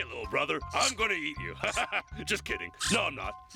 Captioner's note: laughs